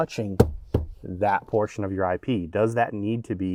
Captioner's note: bangs dashboard